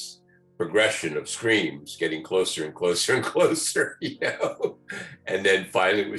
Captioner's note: laughs